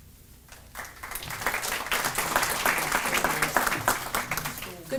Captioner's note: audience applauding